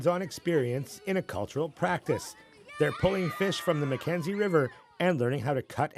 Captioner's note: cheers and Applause